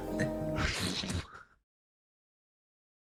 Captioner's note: chuckles